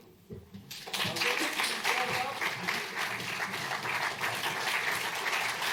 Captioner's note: applause